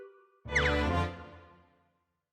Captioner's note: none